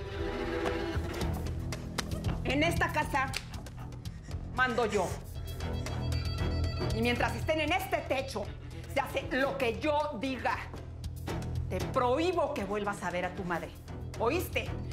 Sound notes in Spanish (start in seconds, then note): none